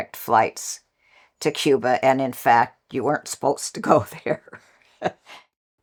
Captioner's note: laugh; laughs